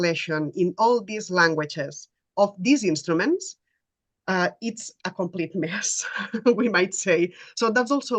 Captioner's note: laughter